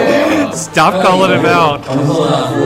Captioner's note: haha